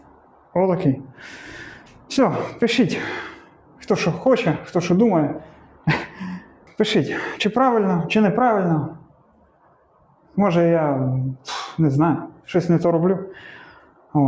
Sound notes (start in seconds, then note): 5.9 sighs